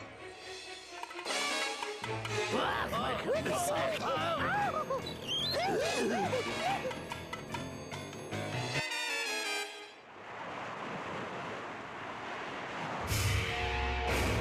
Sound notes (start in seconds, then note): 2.5 screaming; 5.4 howling